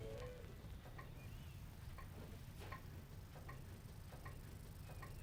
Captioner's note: clock ticking